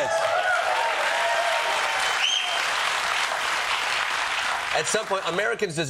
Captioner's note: applause